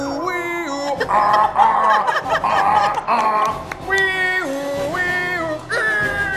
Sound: imitating truck horn

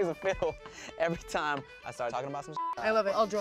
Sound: beep

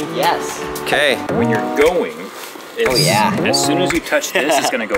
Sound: laughs

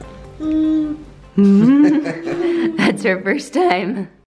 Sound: laughs

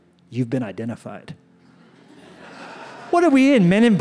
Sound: laughter

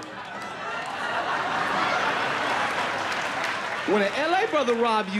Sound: laughter

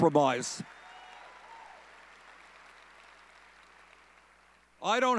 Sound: audience cheering

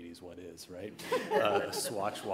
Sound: crowd laughs

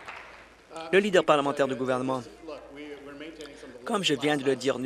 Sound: applause

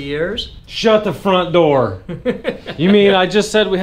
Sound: laughs

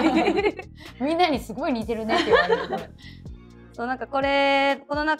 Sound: laughs

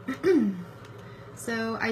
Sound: clears throat

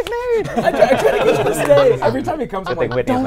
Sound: laughing

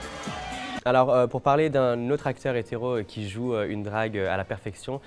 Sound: speaking French

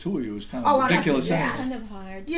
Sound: voiceover

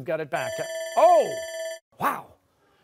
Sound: buzzer

